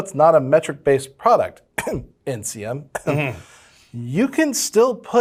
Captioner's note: coughs